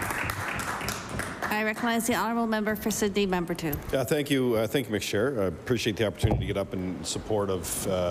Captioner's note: applause